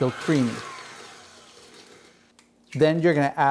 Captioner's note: mixer whirring